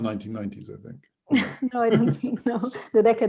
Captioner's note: chuckles